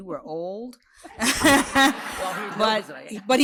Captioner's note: laughter